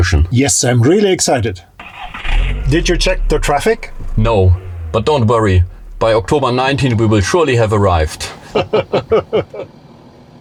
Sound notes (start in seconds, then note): 8.4 laughter